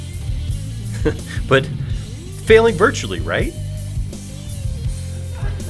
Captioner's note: laughs